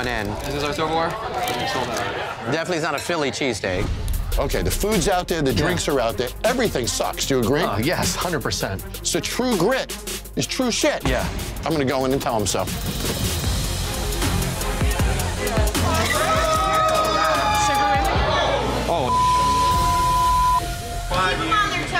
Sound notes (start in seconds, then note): 13.5 tense dramatic music; 15.6 people cheering